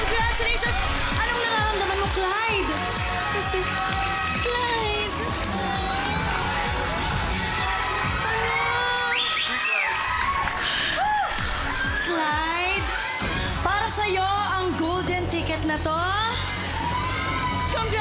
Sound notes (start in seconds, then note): 8.5 whistles